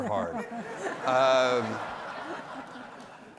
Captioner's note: laughter